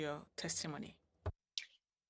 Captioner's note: speaking French